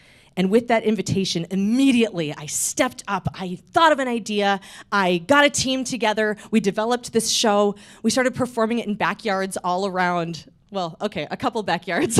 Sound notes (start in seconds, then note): none